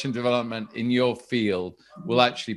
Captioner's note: dog barking